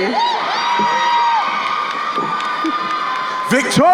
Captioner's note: crowd cheering